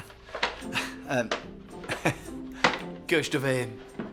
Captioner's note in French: rires